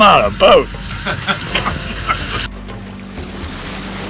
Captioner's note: laughing